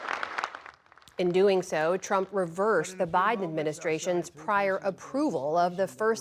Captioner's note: applause